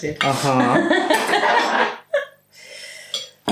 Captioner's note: laffin